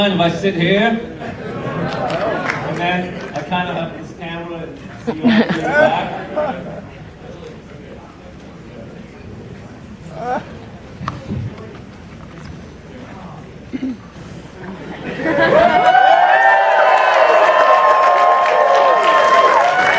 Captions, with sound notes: Do you mind if I sit here? And then, I kind of have this camera, and lean back? (audience cheering)